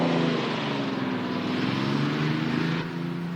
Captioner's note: none